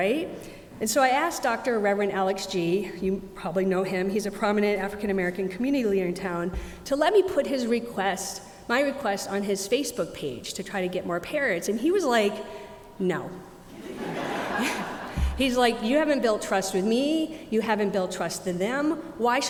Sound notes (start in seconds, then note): 13.7 audience laughing